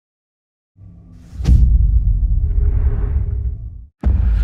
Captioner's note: dramatic sound